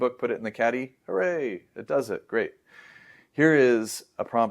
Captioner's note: inhales